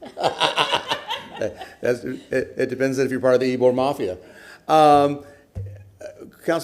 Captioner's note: laughter